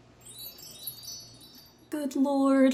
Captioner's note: sparkling effect